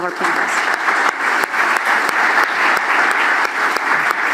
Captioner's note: applause